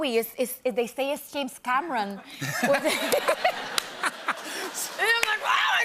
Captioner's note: laughter